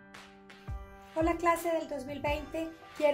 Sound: speaking spanish

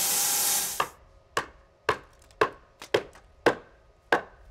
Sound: hammer clangouring

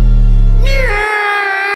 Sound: dramatic, but also annoying exclamation of despair

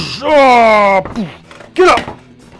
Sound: grunting

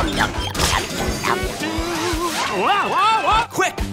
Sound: humming

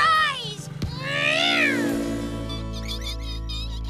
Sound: engine Revs; mice Squeak

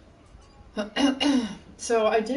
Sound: clears throat

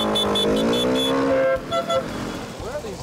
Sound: honking several times

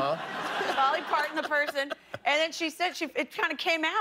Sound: laughter

